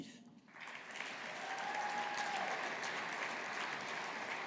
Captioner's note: audience applauding